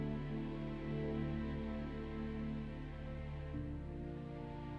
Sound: none

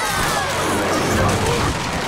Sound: cheering; thudding

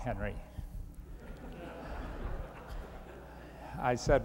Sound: laughter

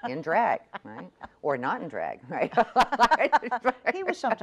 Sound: laughs

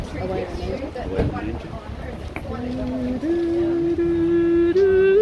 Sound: humming

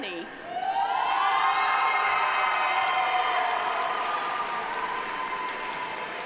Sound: audience cheering; audience applauding

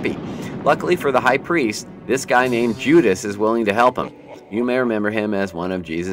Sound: High priests watching Jesus from above and a thunder storm starts

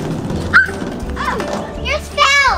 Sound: child screams joyfully

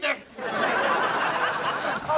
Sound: laughing

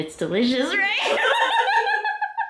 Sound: laughter

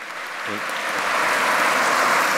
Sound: applause

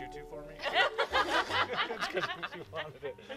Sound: laughing

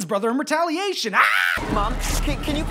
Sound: screams

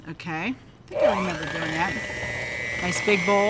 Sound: mixer whirs

